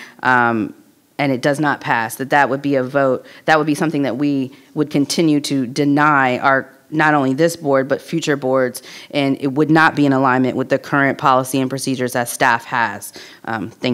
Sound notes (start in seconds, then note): none